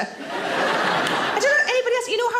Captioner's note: audience laughs